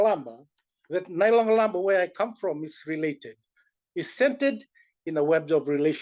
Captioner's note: non-english